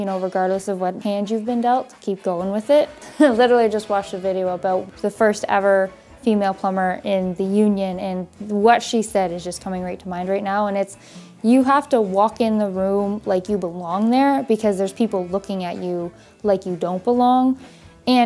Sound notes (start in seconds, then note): 3.0 chuckling